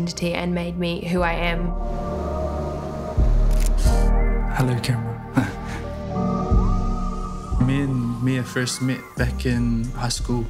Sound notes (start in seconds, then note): 3.5 camera shutter clicks